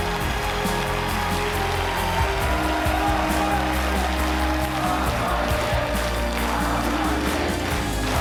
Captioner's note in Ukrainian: оплески